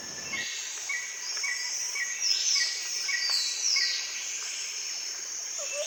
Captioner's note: birds chirping; insects chirping